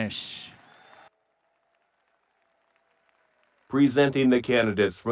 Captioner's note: audience cheering and applauding